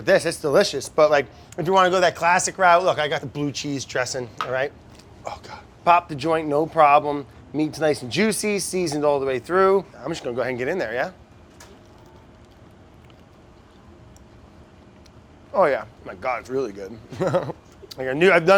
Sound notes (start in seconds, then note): 11.6 chicken crunches; 17.1 laughs